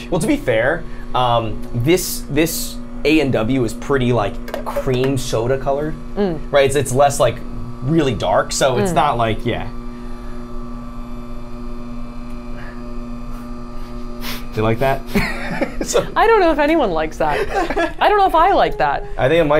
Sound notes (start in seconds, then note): 10.0 machine whirring continues; 15.0 Safiya and Tyler laughs